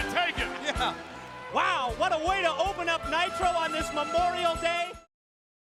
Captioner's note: laugh